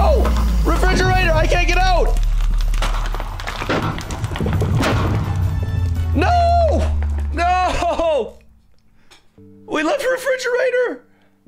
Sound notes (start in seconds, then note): 2.5 Ender Dragon crackling